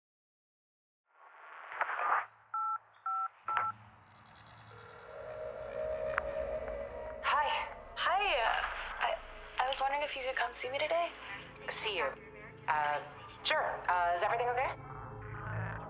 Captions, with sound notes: [line beeping] [line ringing] I-- I was wondering if you could come see me today?